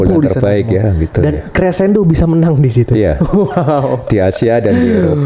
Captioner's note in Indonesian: tertawa